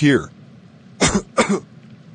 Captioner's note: coughs